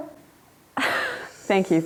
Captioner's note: laughing